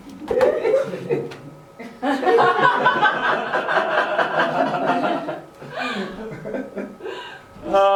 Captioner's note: laughter